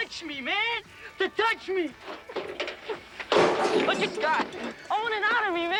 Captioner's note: metal clangs